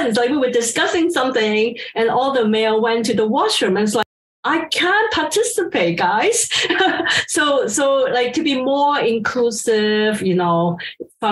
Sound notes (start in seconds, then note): 6.5 laughs